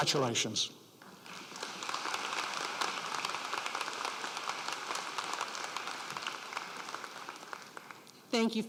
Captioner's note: applause